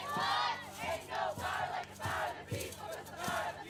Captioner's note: crowd